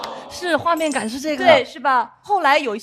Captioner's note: everyone chimes in